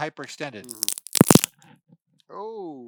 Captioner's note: peanut cracks